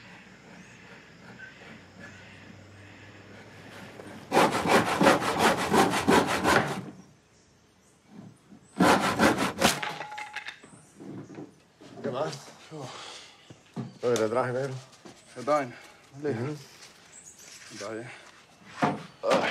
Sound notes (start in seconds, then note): 3.3 negro sawing wood; 8.8 sawing resumes, piece of wood drops on floor